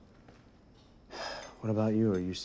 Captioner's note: sigh